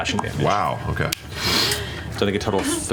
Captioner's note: sniffs